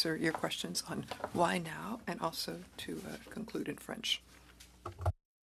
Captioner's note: speaking French